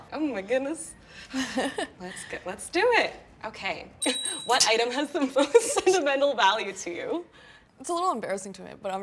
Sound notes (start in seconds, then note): 1.4 laughing softly; 4.1 bells ringing